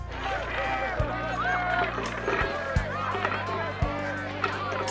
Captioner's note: crowd chattering